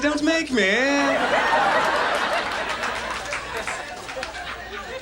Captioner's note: audience laughs